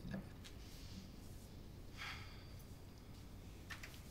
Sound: exhales deeply

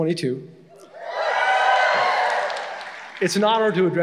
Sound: graduates cheering

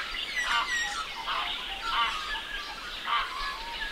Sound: birds calls

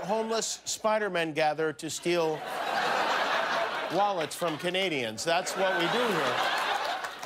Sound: laughter

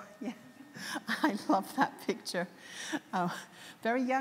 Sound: laughs

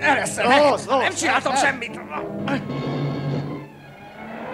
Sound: shouting

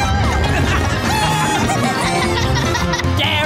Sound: cheering

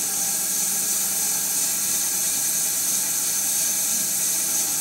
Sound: saw whirring continues

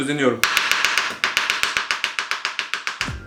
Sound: lightning fast chopping sound

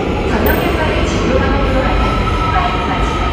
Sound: twinkle!

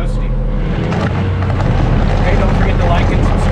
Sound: engine revving

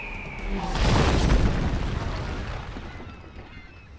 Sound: eagle screeching; car crashing; seagulls squawking

